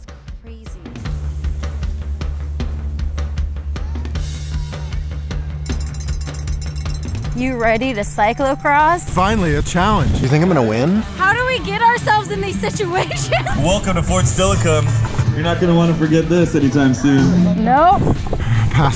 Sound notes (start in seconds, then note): 5.4 cowbell ringing